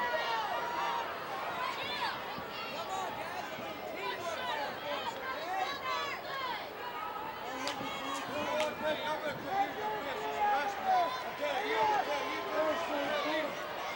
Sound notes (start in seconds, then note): 8.8 wrestlers chattering